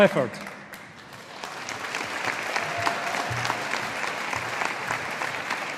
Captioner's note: audience applauding